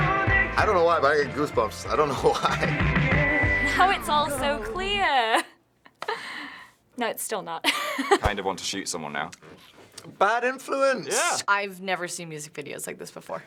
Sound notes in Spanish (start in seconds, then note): 5.7 risas; 7.6 risas